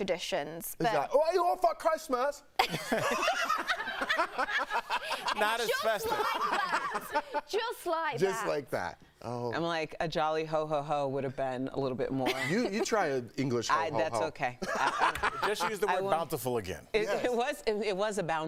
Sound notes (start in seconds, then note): 7.8 laughter